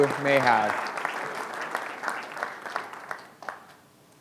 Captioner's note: applause